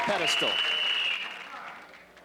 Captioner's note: whiststlele blolowiw